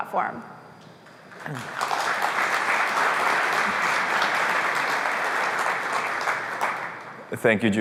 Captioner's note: applause